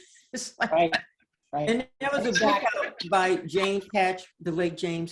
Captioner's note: laughs